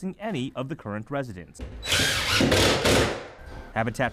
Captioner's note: drilling